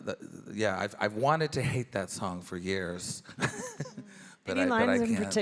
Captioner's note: laughs